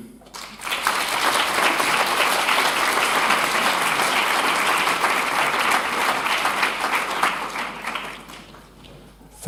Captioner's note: applause